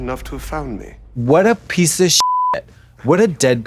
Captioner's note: beep